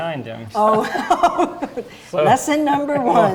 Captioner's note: laughing